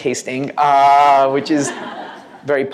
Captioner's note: laughter